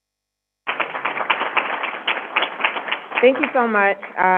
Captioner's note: crowd applauding